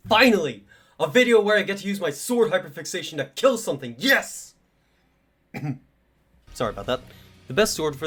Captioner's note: clears throat